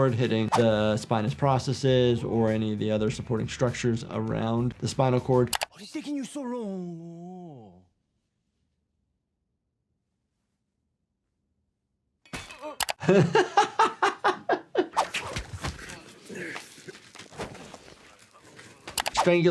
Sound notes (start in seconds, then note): 12.3 weapon clanking; 12.6 laughing; 14.9 cord whipping